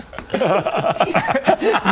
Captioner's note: encouraging giggle